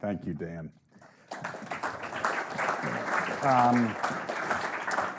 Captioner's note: audience applauding